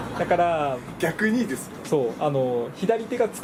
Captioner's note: laughs